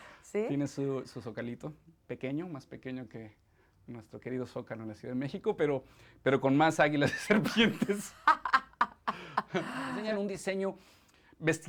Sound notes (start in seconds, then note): 7.1 both laughing